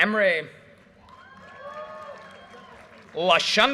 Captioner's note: audience cheers and applause